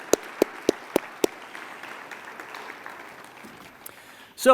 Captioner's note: applause